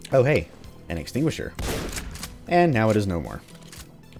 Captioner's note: boom